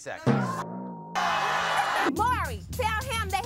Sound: audience gasps

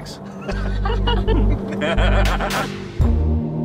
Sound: everyone laughs; dreamy synth music

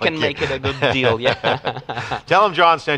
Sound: laughter

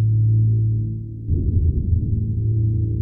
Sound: distant rumbling

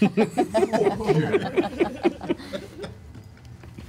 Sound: all laugh

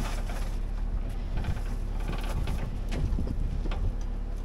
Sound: wind

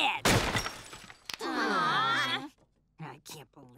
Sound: groaning

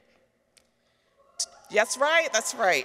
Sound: people cheer; people clap

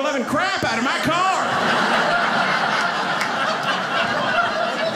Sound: audience laughing

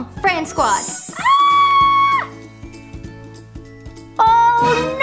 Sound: screaming

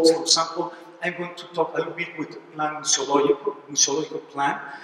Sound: spanish

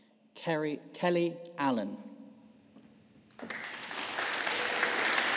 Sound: audience applauding

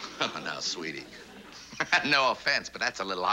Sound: laughter

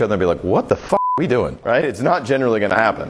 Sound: beep

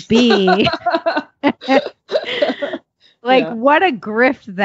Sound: laughing

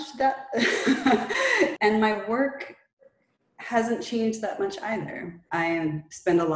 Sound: laughs

